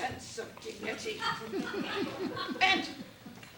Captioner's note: laughter